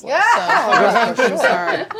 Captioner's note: laughter